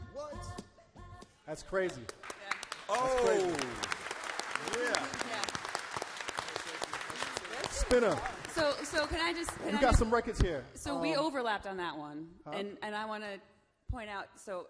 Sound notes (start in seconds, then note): 2.9 applause